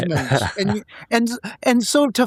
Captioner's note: laughing